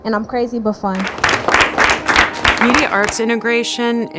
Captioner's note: clapping